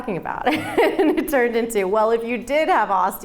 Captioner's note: laughing